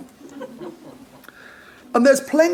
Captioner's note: audience laughs